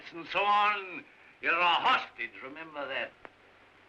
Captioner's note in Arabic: none